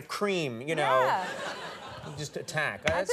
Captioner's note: audience laughing